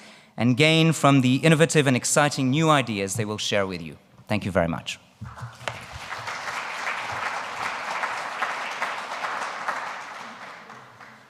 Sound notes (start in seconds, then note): 5.2 audience applauds